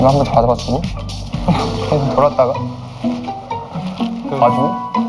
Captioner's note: is laughing at his Hyung presenting himself seriously